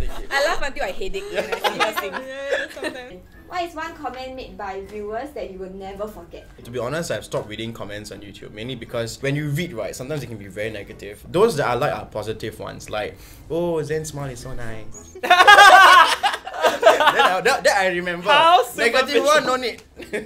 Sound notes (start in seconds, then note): 15.2 laughs